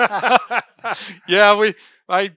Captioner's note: laughing